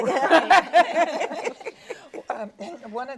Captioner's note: laughing